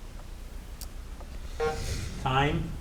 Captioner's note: timer buzzing